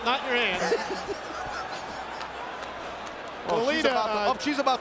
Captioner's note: laugh